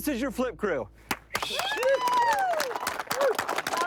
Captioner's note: applauding